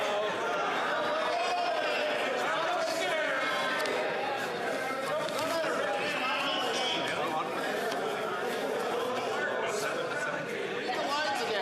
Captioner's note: yelling